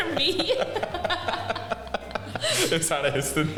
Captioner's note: laughing